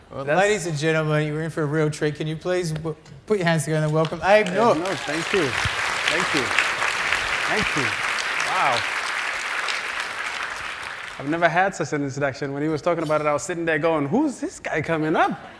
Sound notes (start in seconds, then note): 6.6 applause